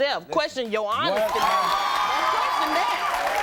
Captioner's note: audience cheering